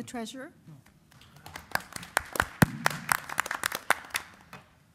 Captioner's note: applause